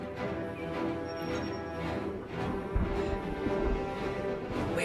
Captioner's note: continuous thunder sounds